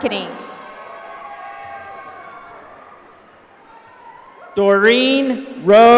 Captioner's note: applause